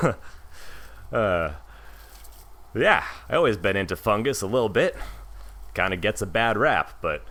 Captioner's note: laughs